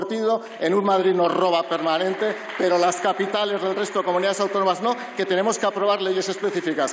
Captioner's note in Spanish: Aplausos